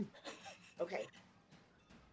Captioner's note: laughing